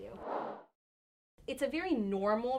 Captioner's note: air whooshing